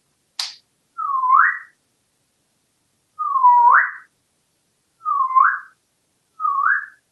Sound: whistling

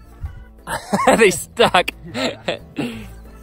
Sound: chuckles

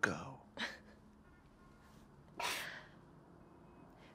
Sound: Maggie laughs

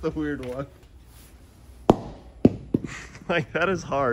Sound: ball bouncing; laughs

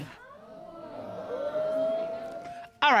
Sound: audience boos

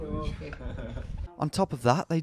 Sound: sarcastically

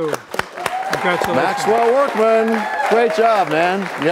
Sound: applause

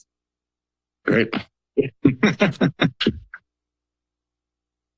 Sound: laughter

